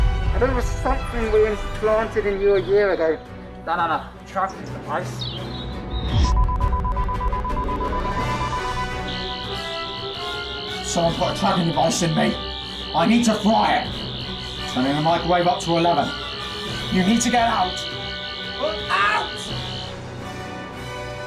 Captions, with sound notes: A little something we implanted in you a year ago. That and a tracking device. (BEEPING) (BUZZING) Someone put a tracking device in me. I need to fry it! Turning the microwave up to 11. You need to get out! -But... -Out!